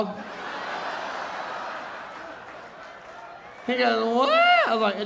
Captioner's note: audience laughing